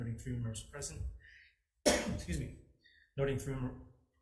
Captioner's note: coughing; clearing throat